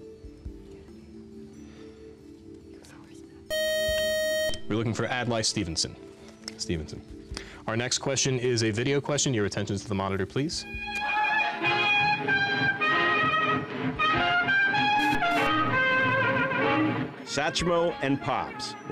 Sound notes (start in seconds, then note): 3.5 time's-up buzzer; 11.4 jazz music